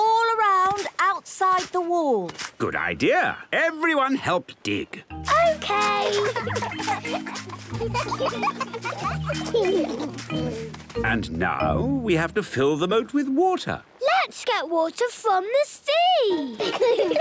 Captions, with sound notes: all around outside the wall. - Good idea. Everyone help dig. - Okay! - (giggling) - And now, we have to fill the moat with water. - Let's get water from the sea!